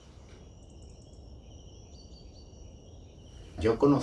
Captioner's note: nature sounds